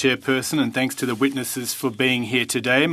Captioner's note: speaking French